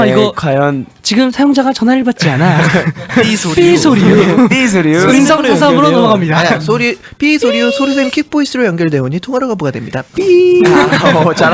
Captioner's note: imitating a voicemail message